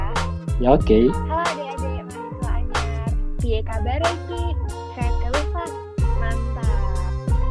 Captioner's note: speaking in Javanese